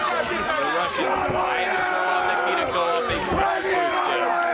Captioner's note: crowd cheering